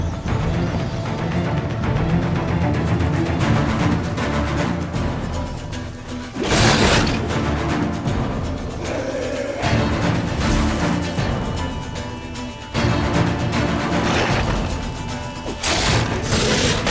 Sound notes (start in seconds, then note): 6.2 snarl; 13.4 snarl